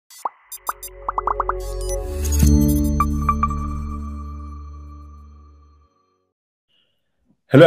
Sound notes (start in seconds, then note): 0.1 graphics popping; 0.1 graphics beeping; 2.4 bright music; 2.4 logo chimes